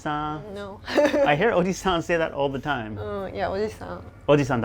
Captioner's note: laughs